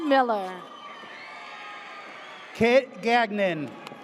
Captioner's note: audience cheers